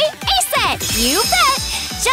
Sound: sparkle

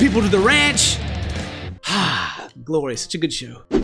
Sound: exhale

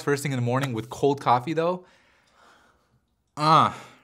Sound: grunts

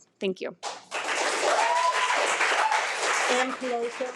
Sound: audience applauding

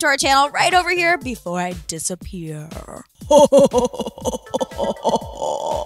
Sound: laughs deeply

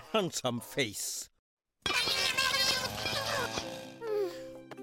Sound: furious chatter

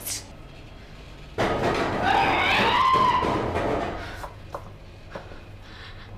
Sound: clatters; Jill screams

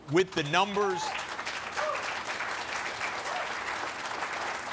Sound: applause

